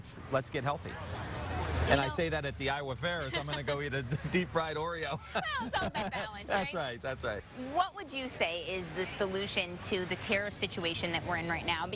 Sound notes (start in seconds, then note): 5.0 chuckling